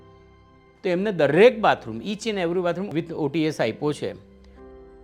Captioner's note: in Gujarati